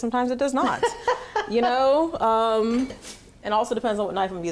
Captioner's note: laughing